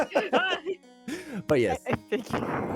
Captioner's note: laughs